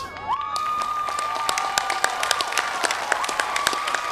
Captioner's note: applause